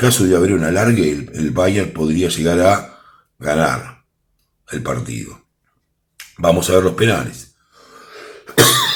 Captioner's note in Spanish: risas